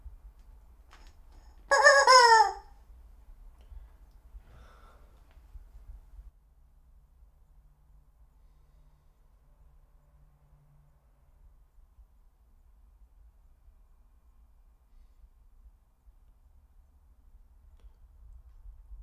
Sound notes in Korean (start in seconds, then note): 1.7 닭 인형 소리